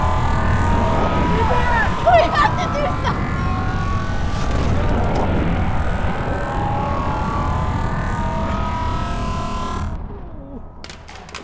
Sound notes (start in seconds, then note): 6.3 zapping; 10.4 grunting; 10.8 clattering